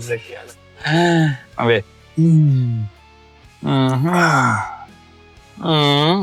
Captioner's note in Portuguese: suspiro